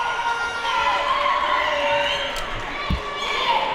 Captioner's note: yelling